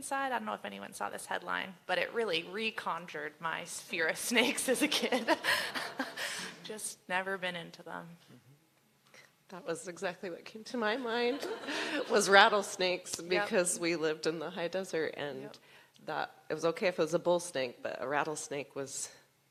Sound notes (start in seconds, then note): 5.0 laughter